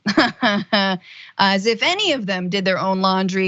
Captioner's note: laugh